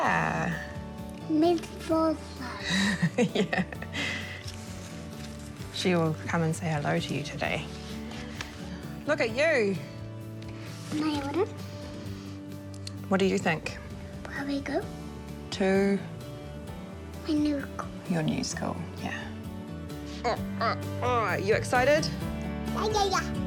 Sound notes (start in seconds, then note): 5.9 chuckles